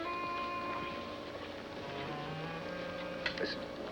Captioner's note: horses Approaching